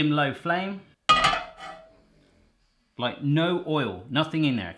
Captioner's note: pan clattering